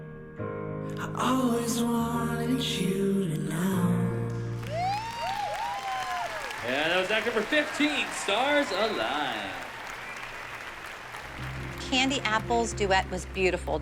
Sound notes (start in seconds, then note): 5.2 applause